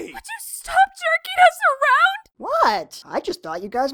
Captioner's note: none